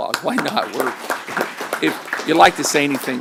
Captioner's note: applause